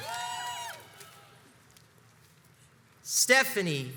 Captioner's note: crowds cheers and applauds